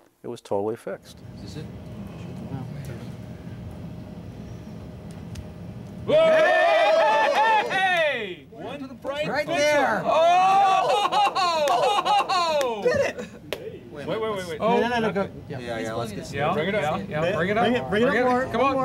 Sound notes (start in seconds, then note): 6.1 cheers and applause; 10.1 laughs